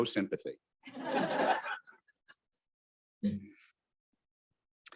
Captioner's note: audience laughing